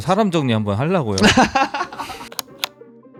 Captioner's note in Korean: 웃음